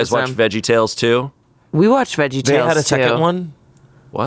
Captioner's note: none